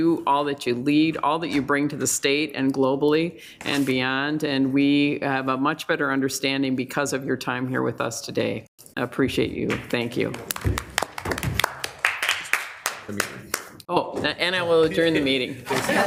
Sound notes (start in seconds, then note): 10.5 attendees applauding